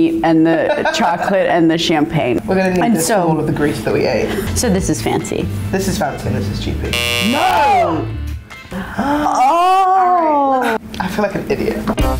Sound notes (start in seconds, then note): 6.9 buzzer; 8.6 gasping; 11.7 quiet jazz